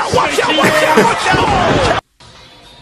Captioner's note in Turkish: Gülüyor